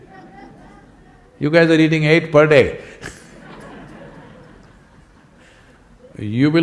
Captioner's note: laughter